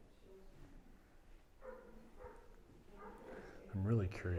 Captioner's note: dog barking